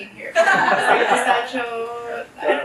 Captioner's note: everyone laughs